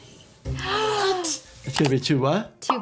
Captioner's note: gasps